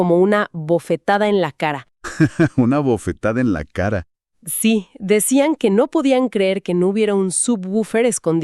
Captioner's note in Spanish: risas